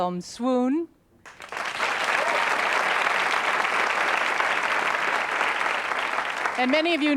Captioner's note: applause